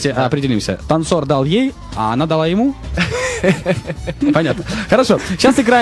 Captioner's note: laughing